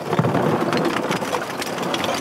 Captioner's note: Scheppern